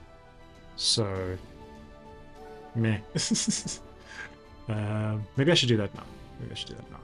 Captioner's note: laughs